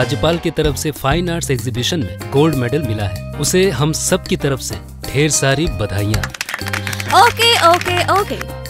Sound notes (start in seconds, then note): 6.0 applause